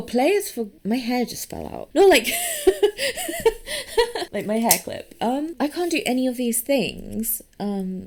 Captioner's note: laughs